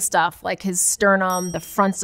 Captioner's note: bell dings